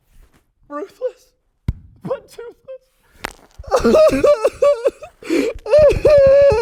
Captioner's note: cries